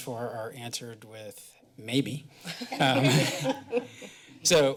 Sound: laughter

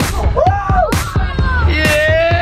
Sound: screams

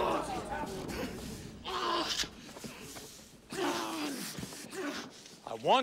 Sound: groaning

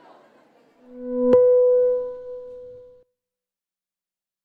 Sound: soft dinging

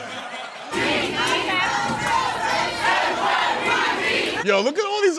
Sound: protesters chanting

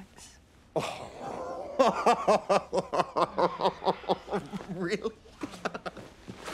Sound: laughter

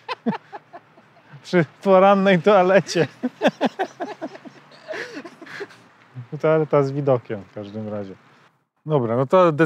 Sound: laughs

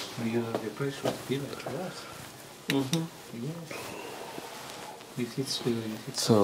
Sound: discuss quietly

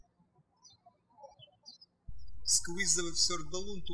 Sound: birds chirping

